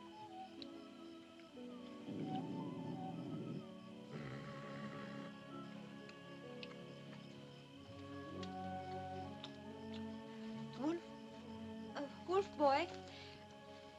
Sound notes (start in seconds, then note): 0.0 sentimental music; 1.8 dog growls; 4.1 Mowgli growls; 6.1 sentimental music